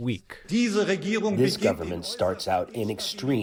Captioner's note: through translator